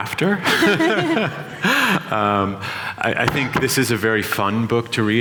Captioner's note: laughter